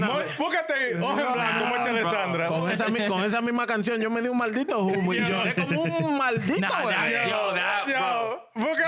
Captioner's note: laughing; speaking In Foreign Language